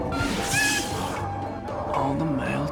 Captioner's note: muffled screaming